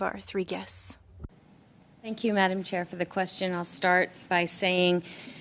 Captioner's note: speaking French